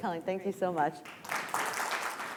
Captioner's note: applause